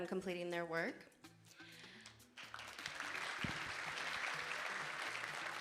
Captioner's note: audience applauding